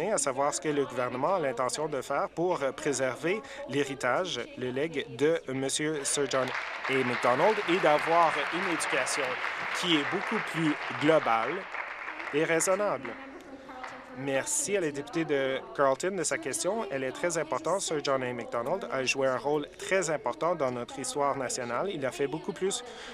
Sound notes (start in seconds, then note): 12.3 applause